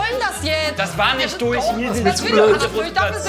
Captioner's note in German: Seufzen